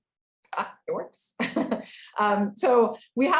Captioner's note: chuckling